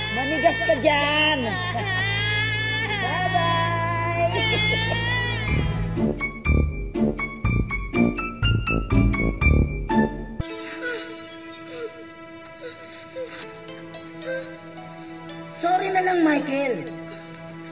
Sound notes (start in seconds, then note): 0.0 wails; 4.0 chuckles; 5.3 wails; 10.4 gasps